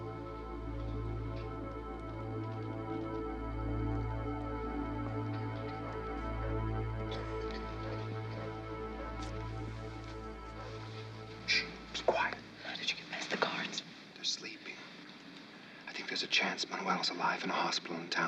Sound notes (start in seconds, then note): 11.5 whispering